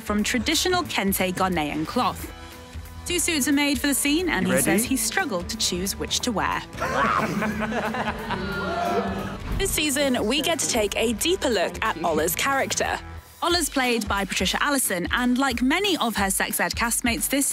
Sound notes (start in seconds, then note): 6.7 laughing